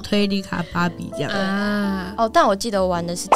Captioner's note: ahhh~~~